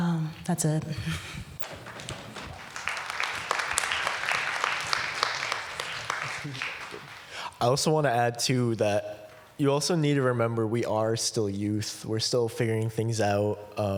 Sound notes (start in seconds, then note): 5.7 applause